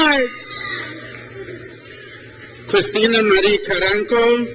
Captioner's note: crowd cheers